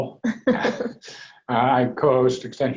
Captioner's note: laughs